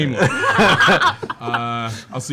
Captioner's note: laughter